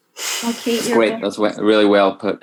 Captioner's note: speaking faintly